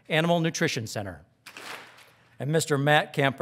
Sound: audience claps

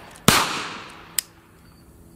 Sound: gun fires

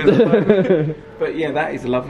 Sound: laughs

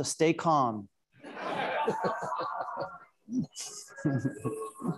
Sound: audience laughing

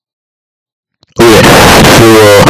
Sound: awkward silence; demonic screech

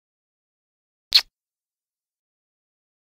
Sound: sound of kiss

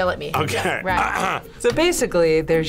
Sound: clears throat

